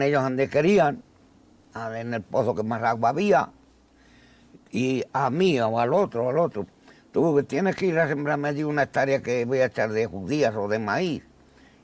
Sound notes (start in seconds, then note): none